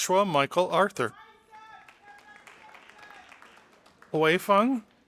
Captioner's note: audience applauding